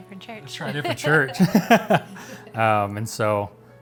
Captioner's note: laughs